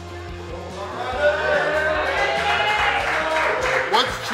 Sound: cheering & Clapping

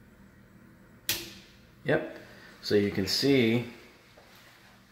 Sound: switch clicking

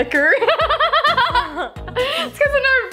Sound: laughter

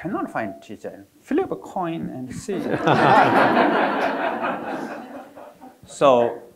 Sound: audience laughing

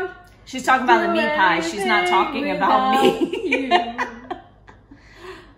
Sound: laughs

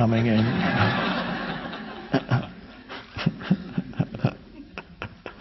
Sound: audience laughing

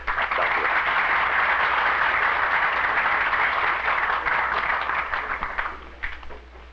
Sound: applause

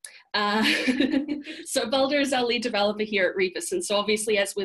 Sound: laughs

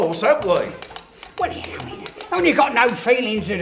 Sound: horse walking

